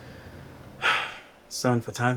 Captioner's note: Q sighs